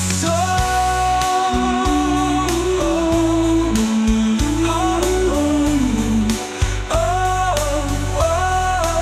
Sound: humming

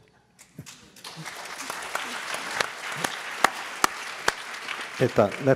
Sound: applause

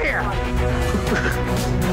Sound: laughs

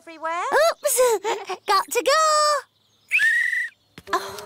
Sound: blows whistle; sighs

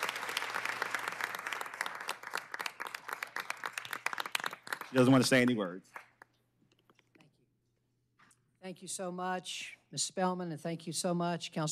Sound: applause

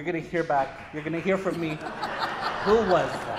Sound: applause

